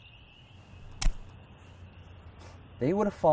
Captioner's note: knife drops